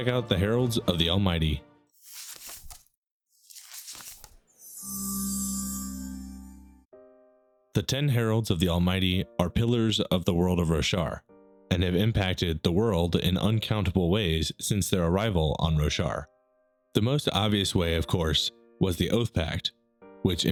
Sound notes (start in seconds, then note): 3.3 pages turning; 4.8 shimmering